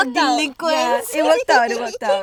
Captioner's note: girls giggles